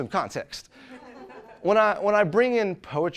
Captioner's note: audience laughs